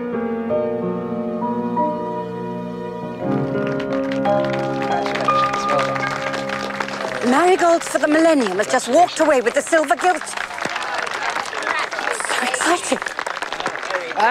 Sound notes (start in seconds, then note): 3.5 applause